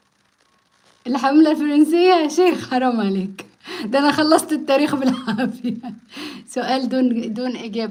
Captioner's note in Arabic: ضحك